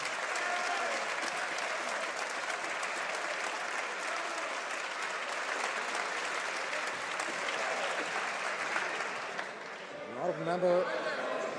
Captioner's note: some Applause